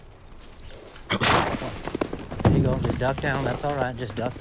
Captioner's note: snorting